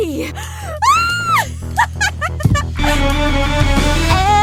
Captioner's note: screams, laughs